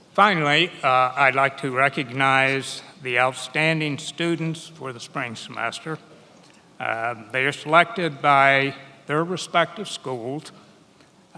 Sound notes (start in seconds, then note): none